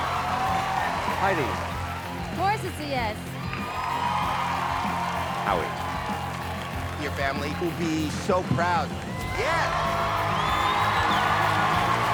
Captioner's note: cheering